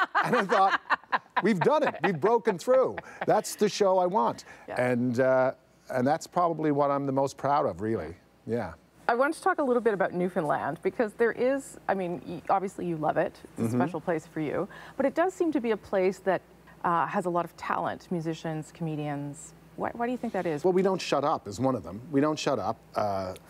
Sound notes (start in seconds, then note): 4.0 laughter